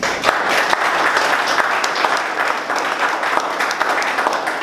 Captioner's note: audience applauds